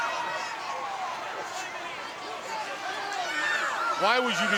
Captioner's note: crowd cheering